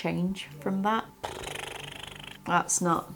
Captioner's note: blowing raspberry